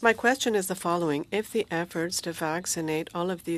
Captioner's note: speaking French